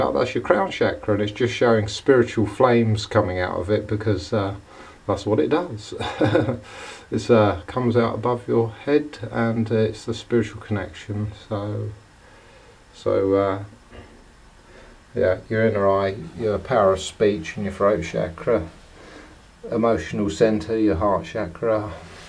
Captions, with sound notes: That's your crown chakra! And it's just showing spiritual flames coming out of it because... ...that's what it does! (Laughter) It comes out above your head and it's the spiritual connection Your inner eye, your power of speech and your throat chakra Emotional centre, your heart chakra